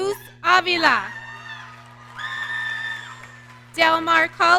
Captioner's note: audience cheering